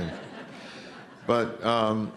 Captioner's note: laughter